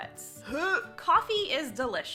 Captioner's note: gag sound